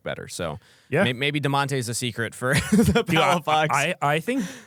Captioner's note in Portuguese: risos